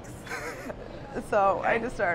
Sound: laughing

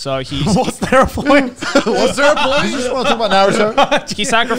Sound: laughs

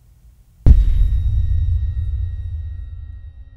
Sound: boom

